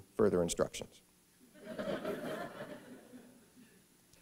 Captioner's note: laughter